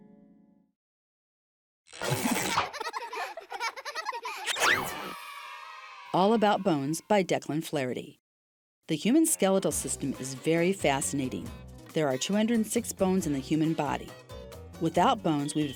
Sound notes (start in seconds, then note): 2.2 children laughing; 4.8 children cheering